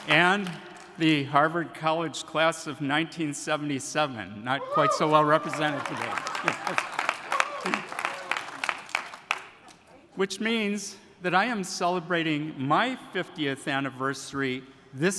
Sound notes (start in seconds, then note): 7.3 attendees applauding; 7.3 attendees cheering